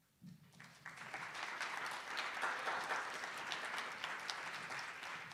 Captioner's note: attendees applauding